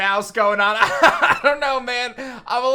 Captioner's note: laughs